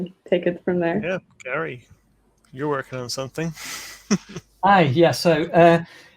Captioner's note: laughs